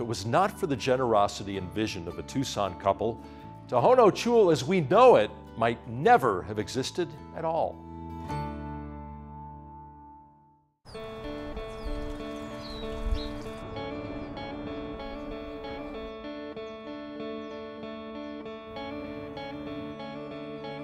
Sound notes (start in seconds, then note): 10.8 birds chirping; 12.6 gentle instrumentals